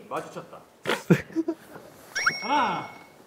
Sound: laughing

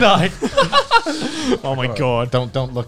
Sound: laughing

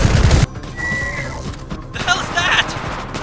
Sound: inordinate screeching

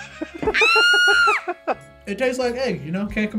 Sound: laughs; woman screams

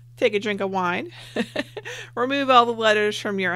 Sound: laughs

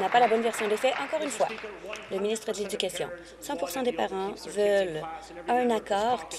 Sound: applause

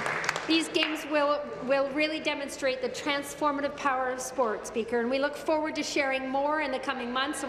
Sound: applause

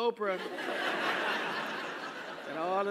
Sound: laugh

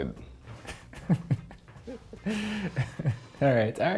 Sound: laughing

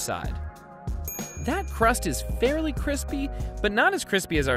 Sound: bell dings

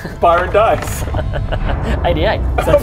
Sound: resigned chuckle

